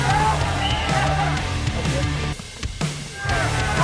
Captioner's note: whistle blows; players yelling